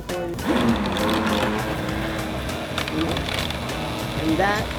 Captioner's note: blender whirring